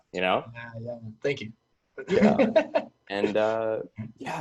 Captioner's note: laughs